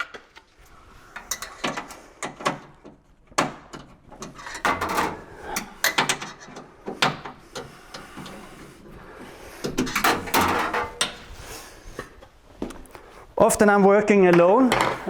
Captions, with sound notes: (metal clanging) Often I'm working alone.